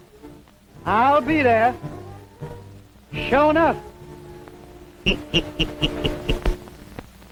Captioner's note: chuckles